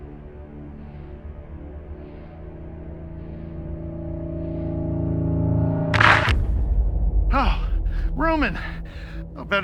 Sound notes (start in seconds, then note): 0.6 dramatic music; 5.9 gun firing